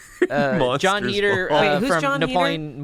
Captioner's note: laughs